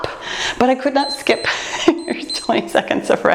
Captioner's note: timer beeps